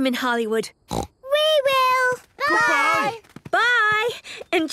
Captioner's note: snort